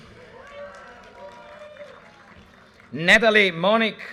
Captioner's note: audience cheers and applause